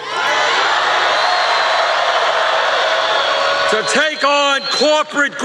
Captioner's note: cheers and applause